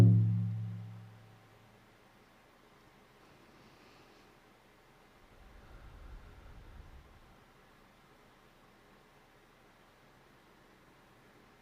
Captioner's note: moment of silence